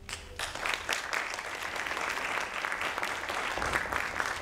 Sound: audience applauding

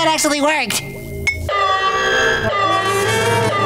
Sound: alarm sounding

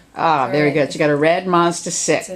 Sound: voiceover

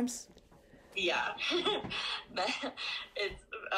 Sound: laughs

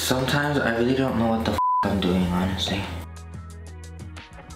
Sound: beep

